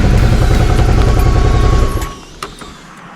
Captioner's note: engine switches off